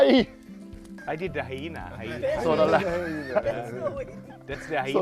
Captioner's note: laughing